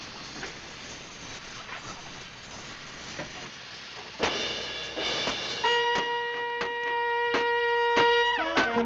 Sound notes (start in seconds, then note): 4.2 cracking; 6.1 dramatic music